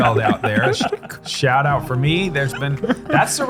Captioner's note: laughter